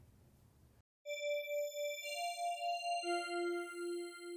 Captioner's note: soft chime